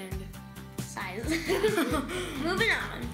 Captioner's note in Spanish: ambos ríen